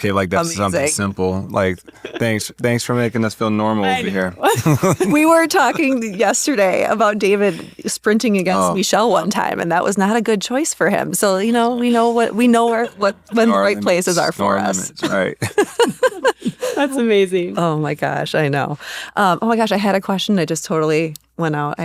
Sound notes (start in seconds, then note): 4.4 laughter; 15.0 laughter